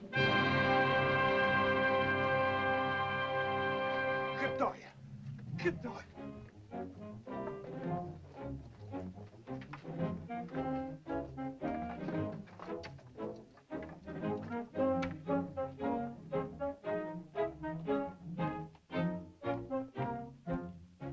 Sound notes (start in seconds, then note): 0.0 speaking in caveman language; 0.1 dramatic music; 4.5 Akhoba speaks in caveman language; 7.3 dramatic whimsical music